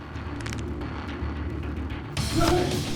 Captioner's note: cracking neck; grunting; smacking